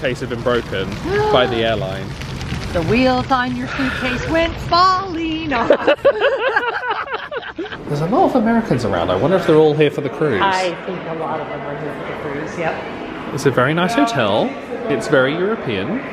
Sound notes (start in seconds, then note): 1.2 gasping; 5.6 laughing